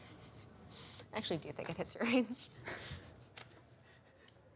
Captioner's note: laughs